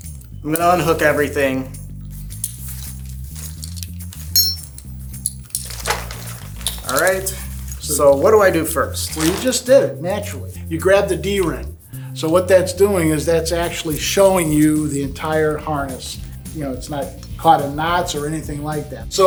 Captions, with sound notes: I'm gonna unhook everything. (upbeat music) (harness clatters) (buckle clinks) (harness clatters) All right. So what do I do first? - Well, you just did naturally. You grab the D-ring. So what that's doing is that's actually showing you the entire harness. It's not caught in knots or anything like that.